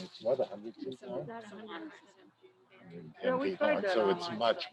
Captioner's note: crowd chattering